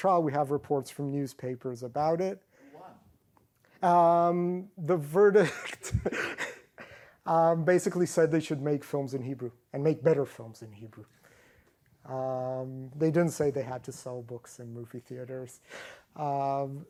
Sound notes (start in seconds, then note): 5.5 laughs